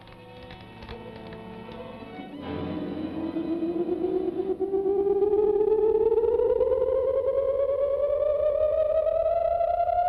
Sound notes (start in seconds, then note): 2.3 car hums